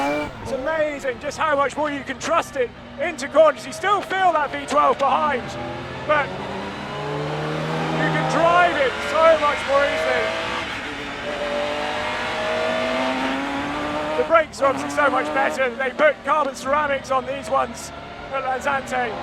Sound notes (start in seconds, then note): 11.7 engine roaring